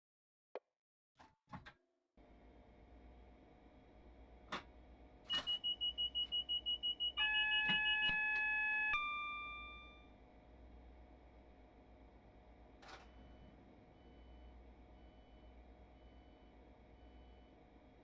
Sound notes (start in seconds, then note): 8.4 loud beeping sounds